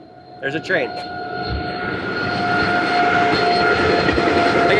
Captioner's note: train whirring